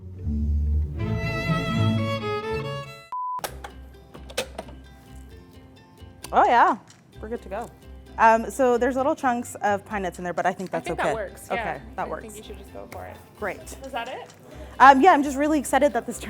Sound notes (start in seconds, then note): 0.9 classical violin music; 3.1 beeping; 3.9 clicking